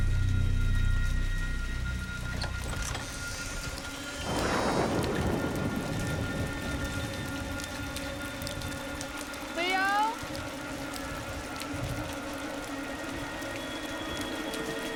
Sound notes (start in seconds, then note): 2.2 door creaking